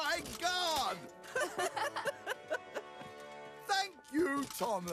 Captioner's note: engines Laugh